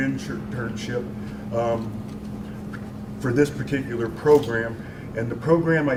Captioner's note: ummm